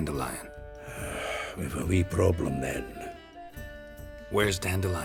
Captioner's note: sigh